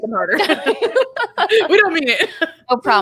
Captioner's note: all laughing